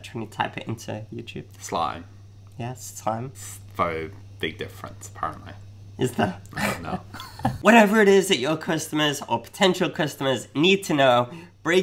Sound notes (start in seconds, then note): 6.5 laughing